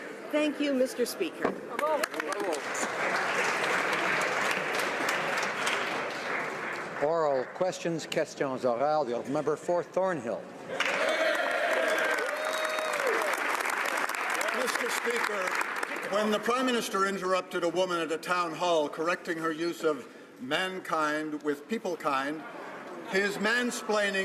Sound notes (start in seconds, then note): 7.8 some Applause; 11.2 speaking French; 14.4 some Applause